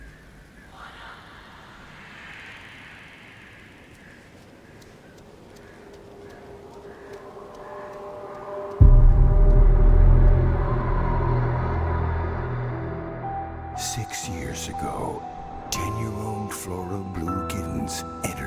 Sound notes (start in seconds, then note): 1.1 ghosts whispering; 9.0 eerie music